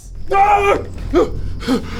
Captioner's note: gasp